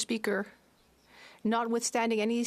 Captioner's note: speaking French